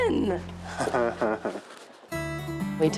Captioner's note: laughs